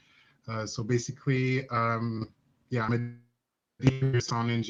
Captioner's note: signal distorts speaker